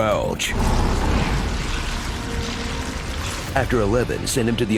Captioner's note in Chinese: 鹹濕觸手音效